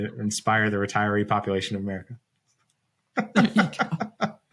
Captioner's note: laughs